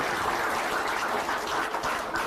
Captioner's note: applause